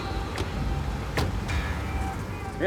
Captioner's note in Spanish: sonido al cerrar las puertas